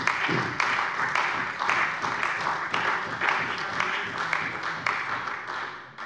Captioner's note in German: Beifall bei der CDU und dem BÜNDNIS 90/DIE GRÜNEN